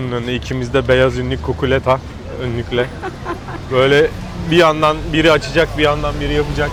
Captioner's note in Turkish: kahkaha